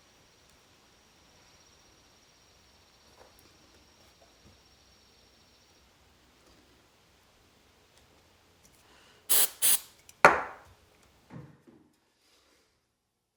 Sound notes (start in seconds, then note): 9.3 spraying product